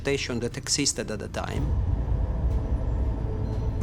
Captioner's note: deep rumble